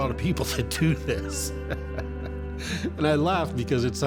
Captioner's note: chuckles